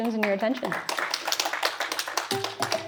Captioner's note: applause